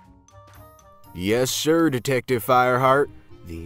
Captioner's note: comedic Western drawl/Playing Along